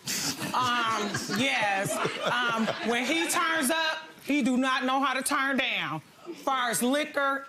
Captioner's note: laughs